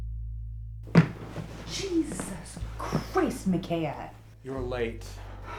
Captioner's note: thudding